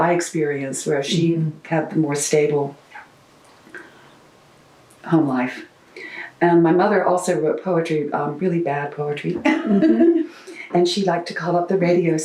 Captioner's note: laughs